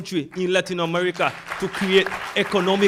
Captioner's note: audience applauds